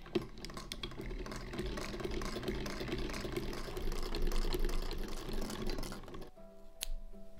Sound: delicious snickety-snack sounds of the antique sewing machine

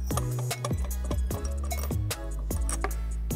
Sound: wrench screeching; tool thuds

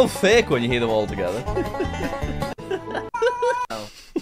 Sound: goofy upbeat music; laughs

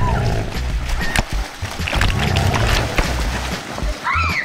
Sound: cheers

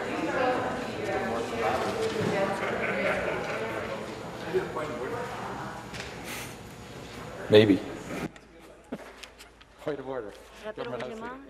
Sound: chatter

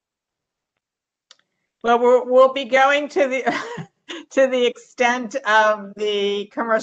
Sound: laughter

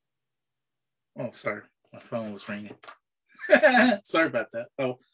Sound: laughs

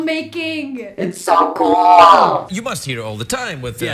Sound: robot voice

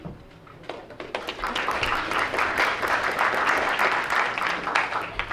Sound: crowd applauds

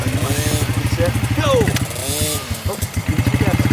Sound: motorbike engine whirring

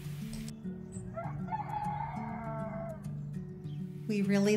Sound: rooster crowing

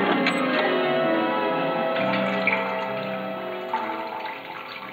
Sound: dripping noise

